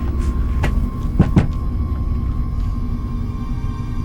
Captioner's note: hand taps; mysterious music